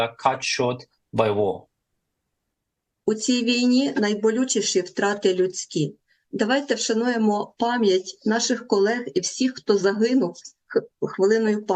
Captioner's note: foreign language